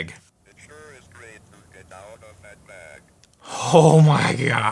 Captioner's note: robotic Voice